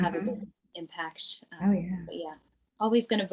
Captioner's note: none